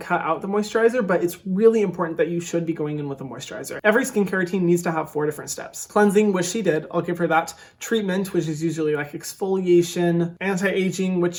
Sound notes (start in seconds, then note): none